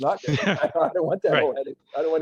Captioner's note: laughs